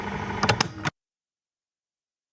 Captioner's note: silence